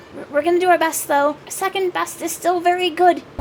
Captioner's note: none